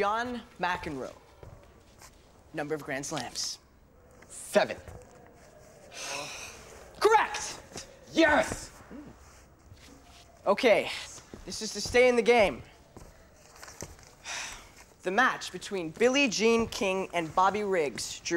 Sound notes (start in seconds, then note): 6.0 Squibb sighing